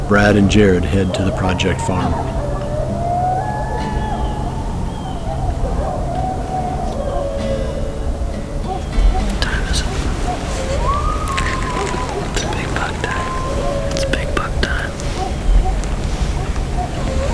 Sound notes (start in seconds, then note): 3.5 sound of coyotes howling; 13.4 whispered voices; 17.1 coyotes howling